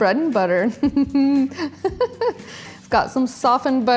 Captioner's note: laughs